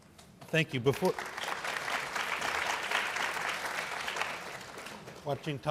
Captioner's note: applause